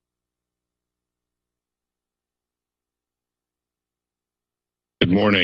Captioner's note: silence